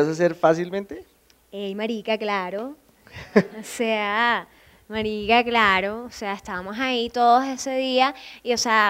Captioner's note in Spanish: con acento